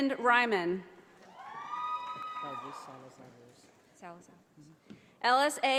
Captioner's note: audience applauding